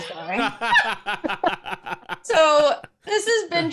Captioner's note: laughs